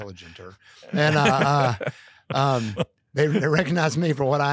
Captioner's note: laugh